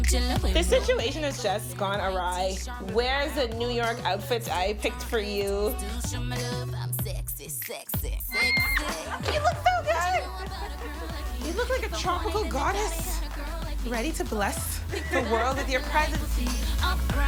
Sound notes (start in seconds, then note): 8.3 screams